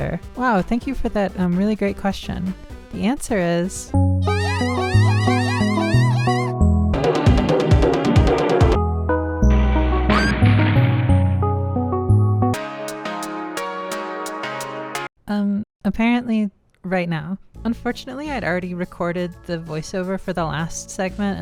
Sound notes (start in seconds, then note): 10.1 crash; 10.1 woman screaming